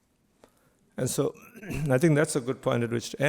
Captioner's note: clears throat